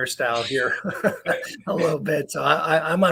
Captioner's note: laugh